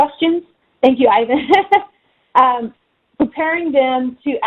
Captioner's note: laughs